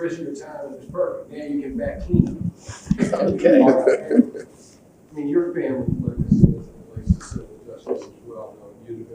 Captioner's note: laughs